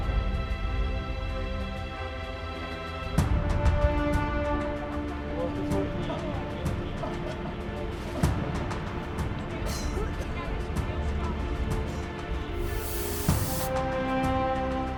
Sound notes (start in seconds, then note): 8.1 coughing; 13.4 soaring music